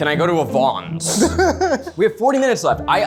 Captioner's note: laughs